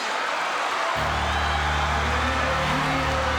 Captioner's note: audience cheering